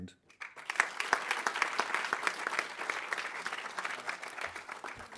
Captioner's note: audience applauding